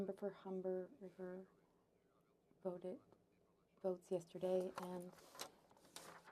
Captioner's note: speaking French